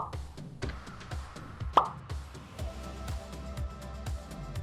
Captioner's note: animation pops; audio scratches; tomato thuds